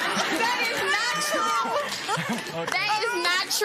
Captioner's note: laughter